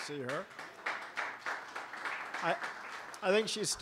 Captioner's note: applause